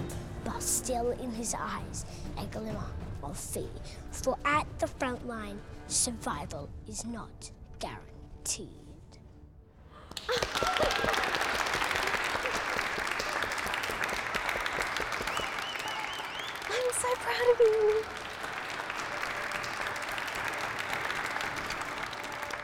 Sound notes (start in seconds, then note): 10.2 laughs joyously; 15.0 audience member whistles